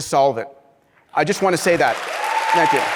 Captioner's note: applause; clapping